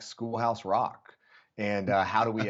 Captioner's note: laughter